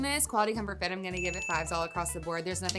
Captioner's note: bell ringing